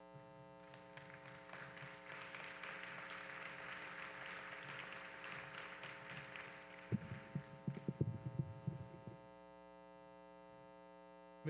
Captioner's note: applause